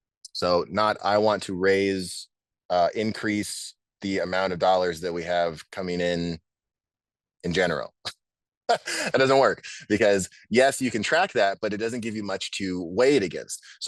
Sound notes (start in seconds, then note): 8.7 laughs